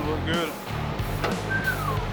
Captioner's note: whistles